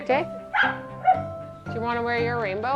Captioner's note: dog barking